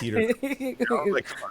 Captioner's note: laughing